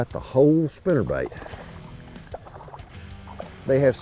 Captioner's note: water rippling